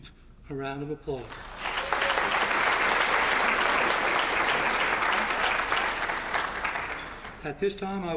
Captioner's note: applause